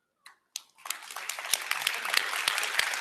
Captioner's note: applause